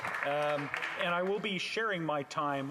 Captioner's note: applause